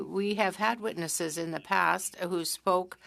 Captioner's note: speaking french